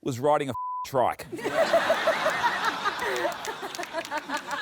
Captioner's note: laughter